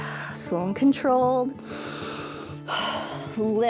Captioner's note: inhales and exhales